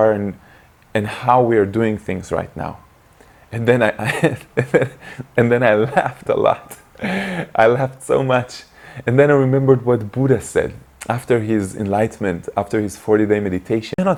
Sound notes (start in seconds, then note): 3.6 laughs